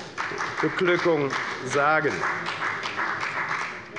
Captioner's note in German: Beifall bei der FDP